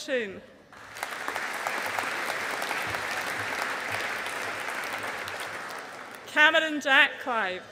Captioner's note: audience applauding